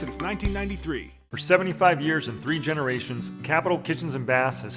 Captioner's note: voiceover